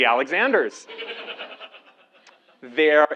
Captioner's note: laugh